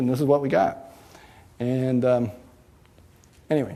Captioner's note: none